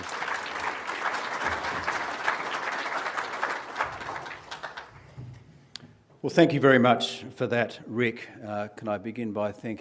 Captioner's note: applause